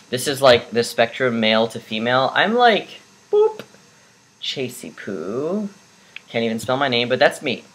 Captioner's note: boop